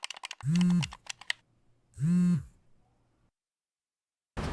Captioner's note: phone vibrates